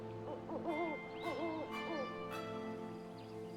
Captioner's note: owl hooting